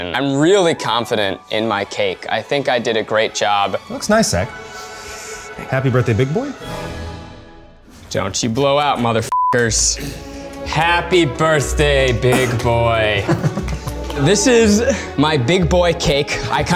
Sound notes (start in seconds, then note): 9.3 beep